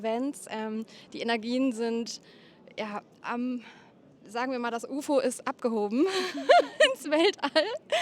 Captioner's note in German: gelächter